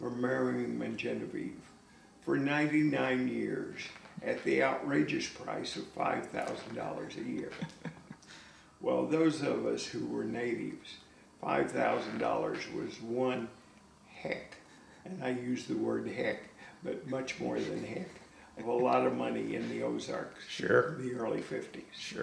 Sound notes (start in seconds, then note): 7.3 laughs